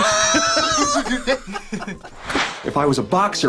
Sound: group laughs

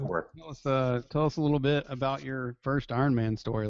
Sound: voiceover

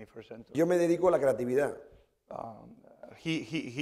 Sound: speaking spanish

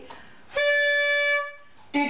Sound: blows horn

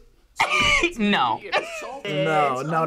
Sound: laughs

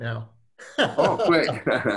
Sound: laughs

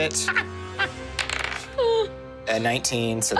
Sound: laughing; die tapping table

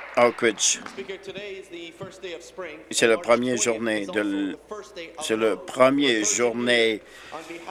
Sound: applause

